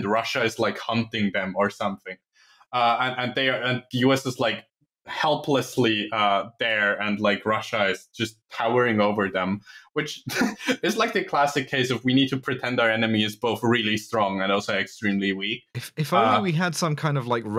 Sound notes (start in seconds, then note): 10.2 laughs